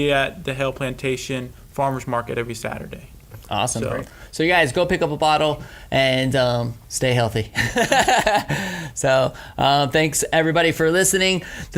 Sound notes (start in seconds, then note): 7.6 laughing